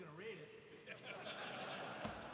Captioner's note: laughter